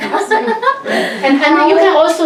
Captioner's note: laughs